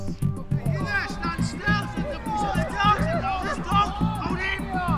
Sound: shouting

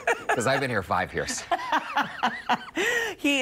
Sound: laughter

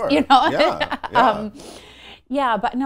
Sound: laughing

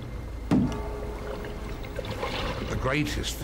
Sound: brooding music continues; knocking on boat

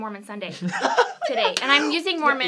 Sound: laughing

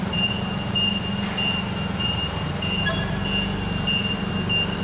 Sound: forklift beeping

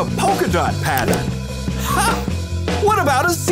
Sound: chuckles

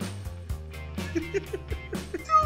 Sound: laughing

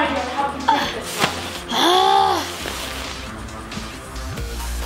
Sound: exasperated Sigh

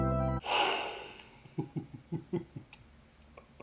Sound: upbeat music plays; laughs

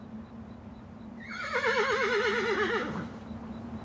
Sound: horse whinnying

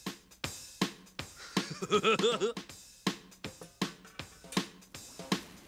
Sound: Muppet laughing

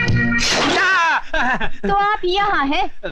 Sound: scream

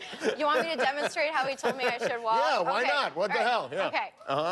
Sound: laughter

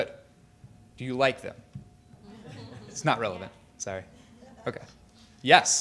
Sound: laughter

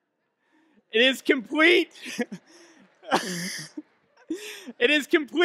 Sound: laughs

